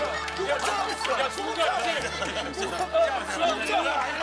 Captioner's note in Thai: หัวเราะ